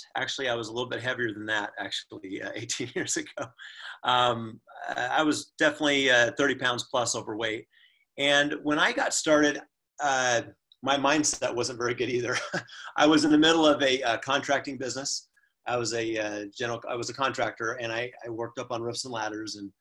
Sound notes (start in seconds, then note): 12.3 laughs